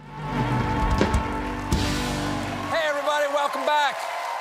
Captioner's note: applause